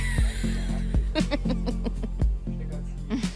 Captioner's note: laughs